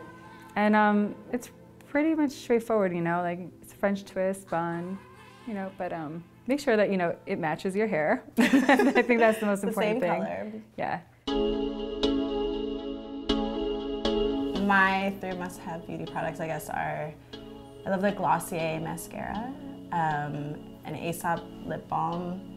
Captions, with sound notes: and it's pretty much straightforward, you know, like it's a french twist bun, you know, but um, make sure that you know, it matches your hair. (Laura laughs) I think that's the most important thing. - The same color. - Yeah. (electronic music) - My three must-have beauty products I guess are, I love the Glossier mascara, an Asap lip balm,